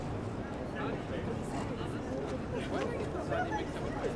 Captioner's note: crowd chatting